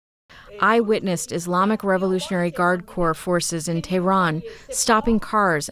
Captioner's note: through translator